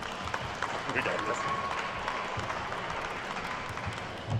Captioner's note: attendees clapping